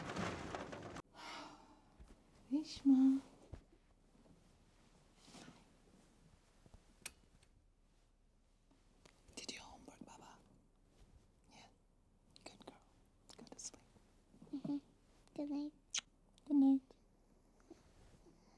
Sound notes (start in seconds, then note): 1.6 sighs; 9.2 whispering